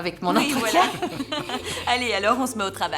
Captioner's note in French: rires